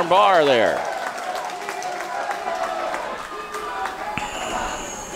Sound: crowd applauding

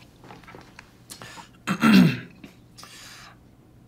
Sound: clears throat

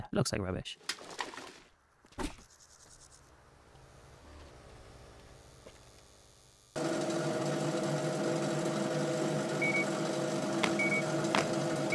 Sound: beeping

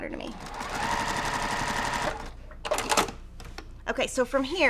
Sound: sewing machine resounding

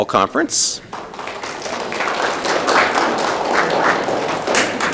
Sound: audience clapping

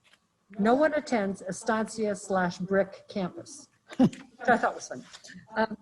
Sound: chuckles

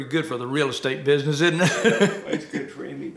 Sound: laughs

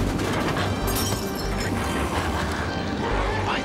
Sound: glass breaking

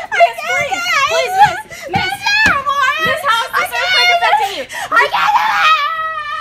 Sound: incoherent whining and yelling

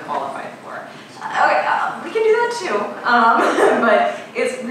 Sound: laughing

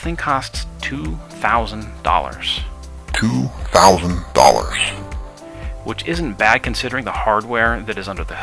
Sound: $2,000 in slower deep voice

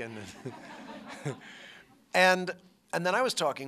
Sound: laughter

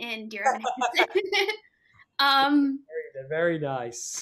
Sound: laugh

